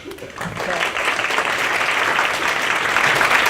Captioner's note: applause